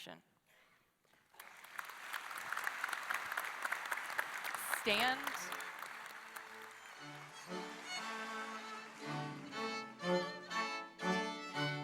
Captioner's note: applause